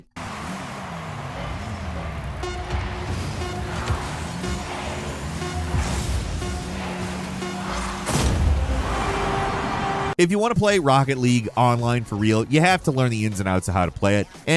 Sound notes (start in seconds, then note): 0.2 crowd cheering; 3.0 crowd; 7.7 explosion booming; 8.8 triumphant horn music